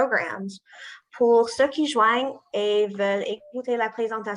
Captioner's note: non-english speech